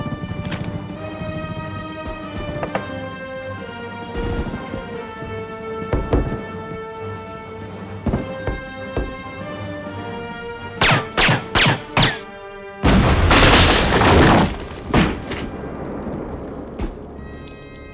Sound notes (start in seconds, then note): 2.5 knocks; 5.9 hollow knock; 10.8 gunshots